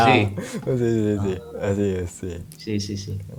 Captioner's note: Spanish